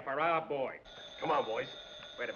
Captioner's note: phone rings